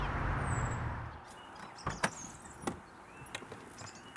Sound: car doors open

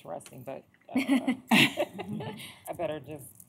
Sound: laughing

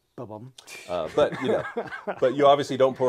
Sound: laughs

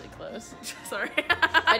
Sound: laughing

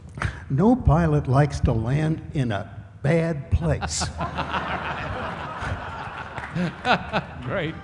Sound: laughter

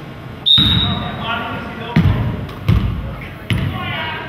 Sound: whistle blows

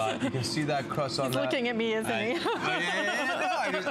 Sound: laughter

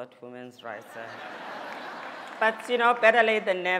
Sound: laughter

